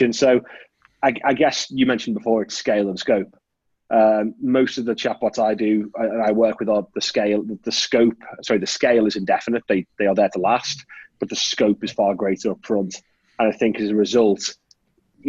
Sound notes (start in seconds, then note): none